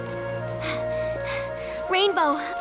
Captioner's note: panting